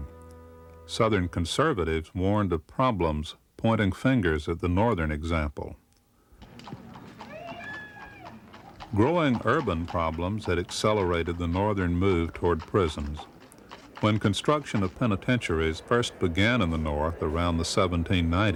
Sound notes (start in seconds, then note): 7.0 horse hooves clopping